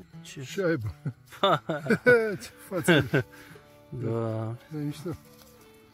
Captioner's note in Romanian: Râsete